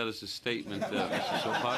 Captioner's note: laughter